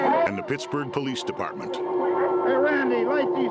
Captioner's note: officers chattering indistinctly